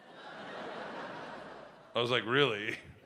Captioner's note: audience laughs